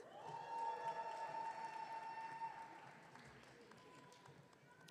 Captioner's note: audience cheering